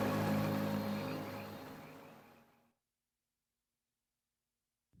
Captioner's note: frogs croaking